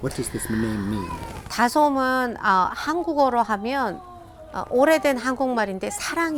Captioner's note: speaking in foreign language